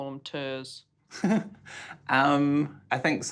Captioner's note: laughs